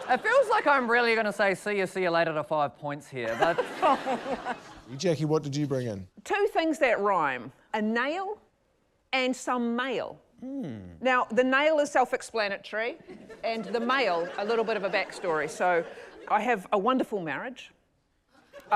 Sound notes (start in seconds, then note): 3.2 laughter